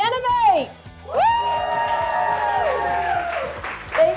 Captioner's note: people cheering